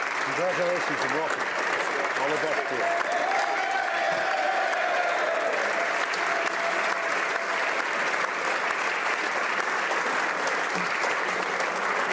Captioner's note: applause